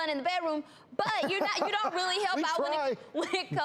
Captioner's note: chuckles